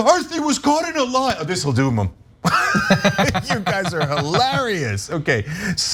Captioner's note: laugh